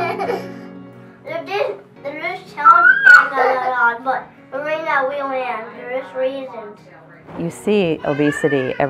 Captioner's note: children talking and laughing